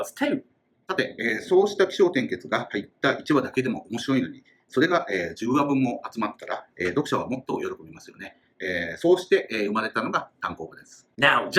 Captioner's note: speaking Japanese